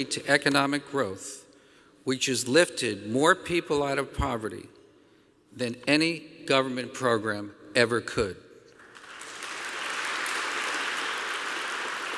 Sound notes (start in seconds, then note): 8.7 applause